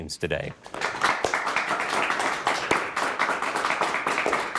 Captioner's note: audience applauds